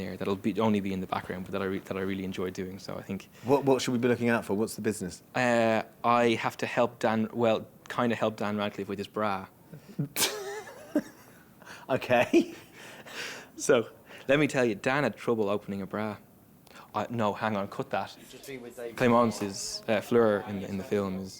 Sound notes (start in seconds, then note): 9.8 laughing